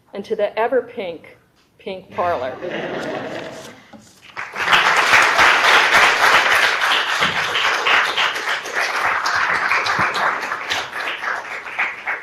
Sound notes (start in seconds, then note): 2.1 audience members laughing; 4.3 audience applauding